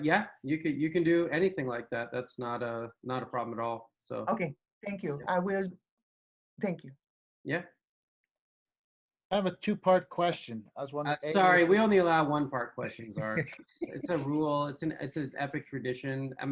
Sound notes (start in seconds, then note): 13.1 giggles